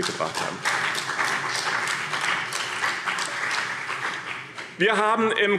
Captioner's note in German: Beifall BÜNDNIS 90/DIE GRÜNEN und CDU